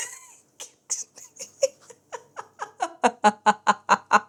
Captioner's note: more laughs